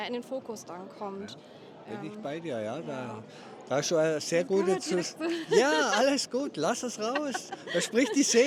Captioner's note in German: gelächter